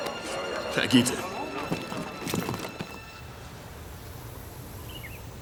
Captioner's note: man speaking foreign language